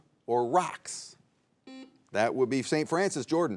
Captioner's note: buzzer beeps